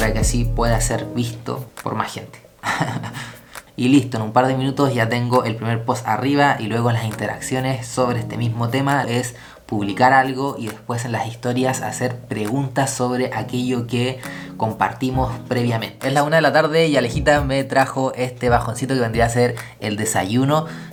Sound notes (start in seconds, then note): 2.6 laughs